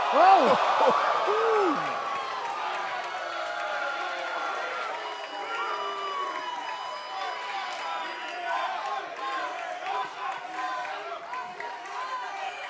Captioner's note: crowd response